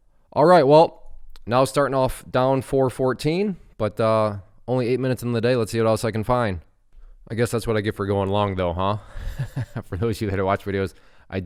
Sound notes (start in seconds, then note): 9.1 laughs